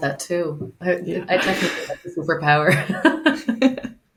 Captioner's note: laughs; chuckles; laughs